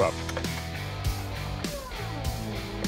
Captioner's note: machinery whirring